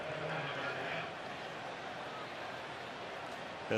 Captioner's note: announcer on pa